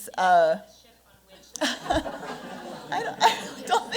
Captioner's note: laughter